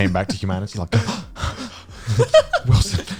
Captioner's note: guys laughing; gasping